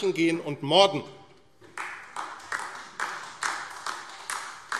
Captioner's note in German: Beifall AfD